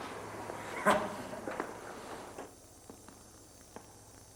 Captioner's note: laughing